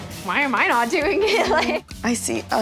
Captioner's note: laughs